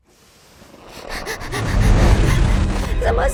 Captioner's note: Kaufmo growling; panting